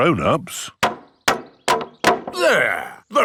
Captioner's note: hammering